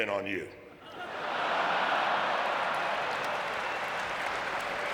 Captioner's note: audience laughing